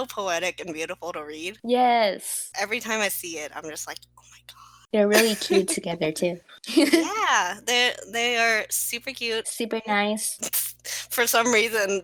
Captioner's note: gasp